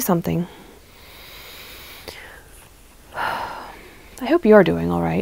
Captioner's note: deep inhale, sigh